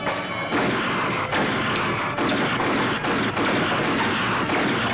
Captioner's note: dramatic music; lasers blasting